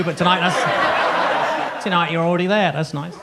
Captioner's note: audience laughs